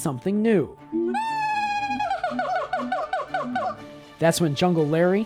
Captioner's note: monkey howls